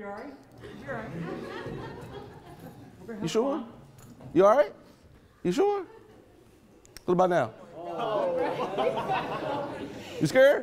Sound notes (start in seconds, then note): 0.6 attendees laughing; 7.6 attendees laughing